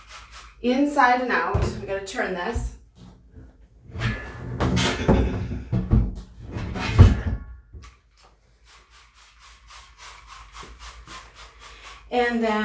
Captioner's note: sound of spray bottle